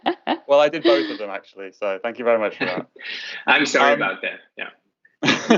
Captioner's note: laughter